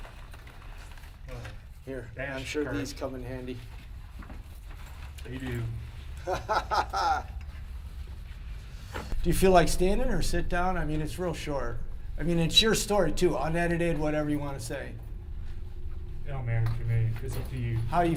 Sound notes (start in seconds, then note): 6.2 laughter